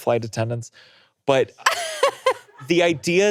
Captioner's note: laughing